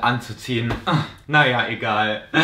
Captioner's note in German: Stöhner